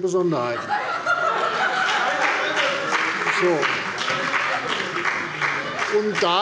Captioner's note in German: Heiterkeit - Beifall bei der CDU und dem BÜNDNIS 90/DIE GRÜNEN